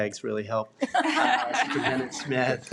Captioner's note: trustees laugh